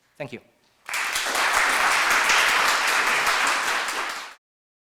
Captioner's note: applause